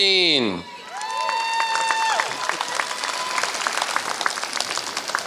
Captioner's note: applause